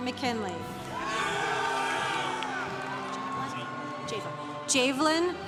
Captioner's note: congregation cheering